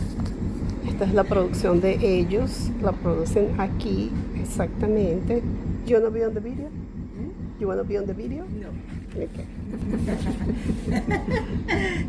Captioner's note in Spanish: risas